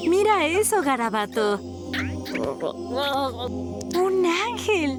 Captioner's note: caterpillar noises